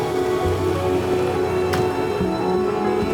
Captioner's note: horns honking